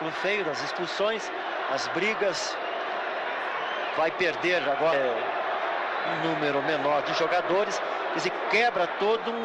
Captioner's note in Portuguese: aplausos; aplausos